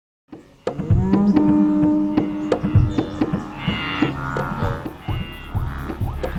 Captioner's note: percussion music; wildebeests grunting